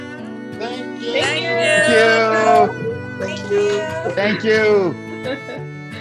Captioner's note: laughing